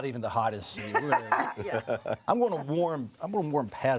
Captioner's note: laughing